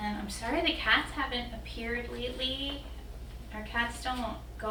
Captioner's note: none